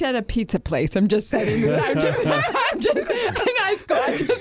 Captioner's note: everyone laughing